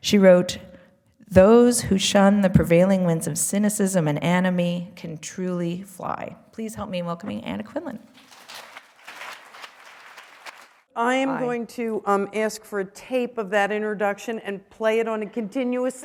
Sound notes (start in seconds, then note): 8.2 applause